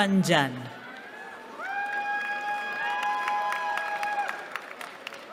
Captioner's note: cheering